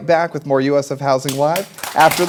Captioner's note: applause